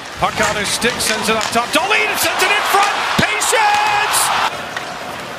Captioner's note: applause